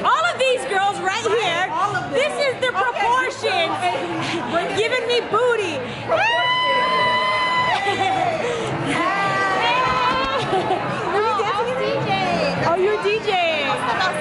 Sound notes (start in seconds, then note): 6.2 screams; 8.0 shouting and laughter